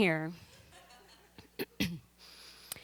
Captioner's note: laughter